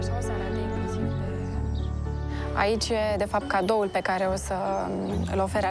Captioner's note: speaking foreign language